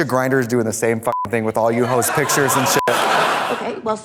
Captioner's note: beep